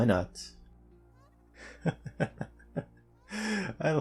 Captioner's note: laugh